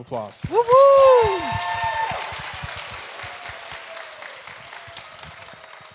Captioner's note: audience cheering, clapping